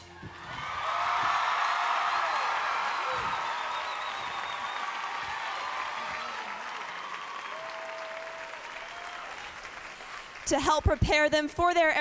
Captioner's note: cheers and applause